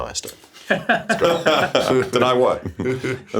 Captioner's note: laughs